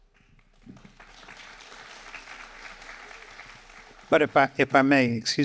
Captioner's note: audience applauding